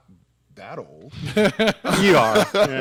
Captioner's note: laugh